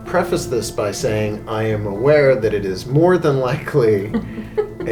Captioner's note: chuckling